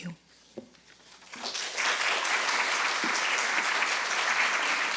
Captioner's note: audience applauding